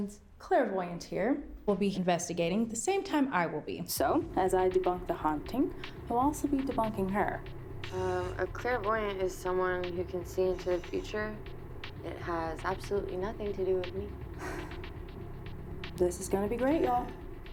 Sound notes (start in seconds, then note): 14.4 Rachel sighs